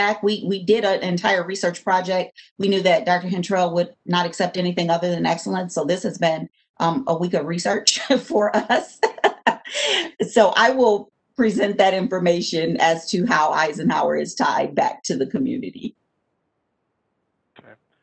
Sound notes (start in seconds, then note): 8.5 laughs